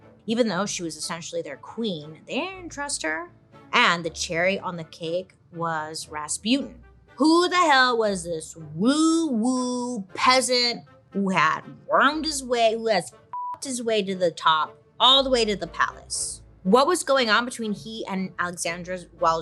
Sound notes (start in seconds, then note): 13.3 beeps